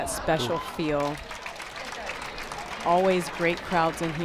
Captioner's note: crowd applauds